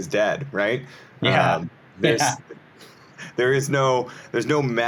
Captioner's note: chuckles